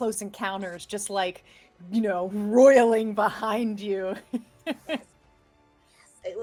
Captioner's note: chuckles